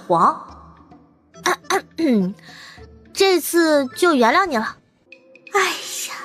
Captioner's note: cough